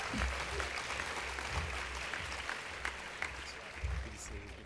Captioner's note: applause